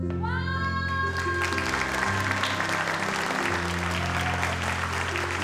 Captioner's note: audience applauds